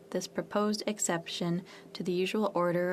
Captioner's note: speaking French